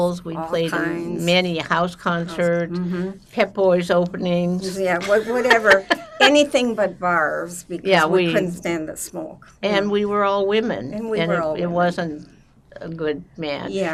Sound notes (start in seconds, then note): 5.0 laughing